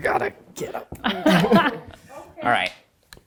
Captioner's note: laughs